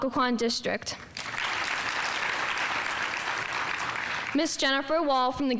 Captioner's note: audience applauding